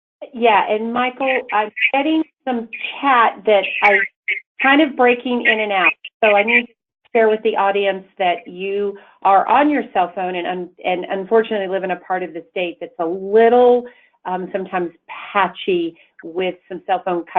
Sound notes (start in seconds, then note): 3.2 distorted audio